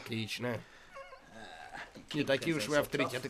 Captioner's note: grunts